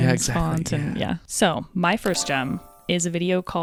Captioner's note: chimes ringing